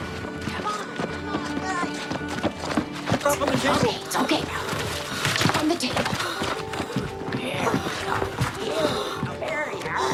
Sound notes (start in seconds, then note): 6.2 woman moaning